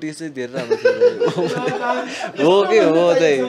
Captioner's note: laughs